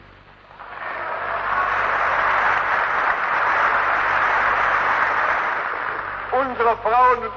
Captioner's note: applause